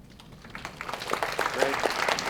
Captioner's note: audience clapping